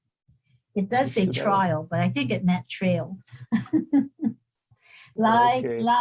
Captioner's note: laughs